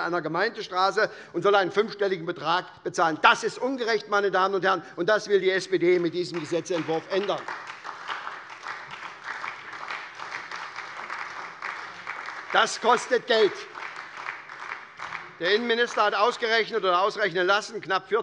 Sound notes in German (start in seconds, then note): 7.4 Beifall bei der SPD